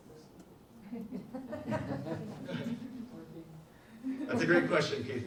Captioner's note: audience laughs